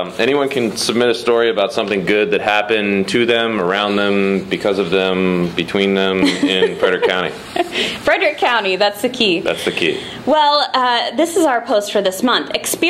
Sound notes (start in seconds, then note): 6.2 laughter